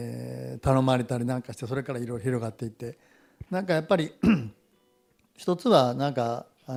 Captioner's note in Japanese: 咳払い